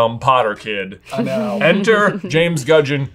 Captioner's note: chuckling